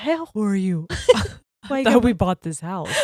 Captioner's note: both chuckling